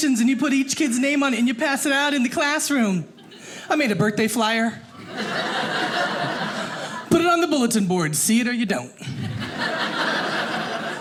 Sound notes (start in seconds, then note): 4.9 audience laughing; 9.0 audience laughing